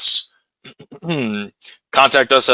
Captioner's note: clears throat